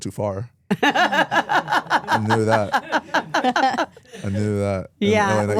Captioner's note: hosts laugh